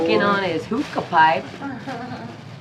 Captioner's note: laughs